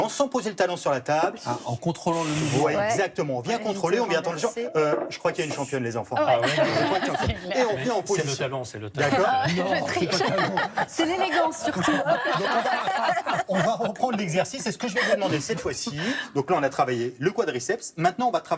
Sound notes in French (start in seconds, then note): 6.2 rires; 12.1 rires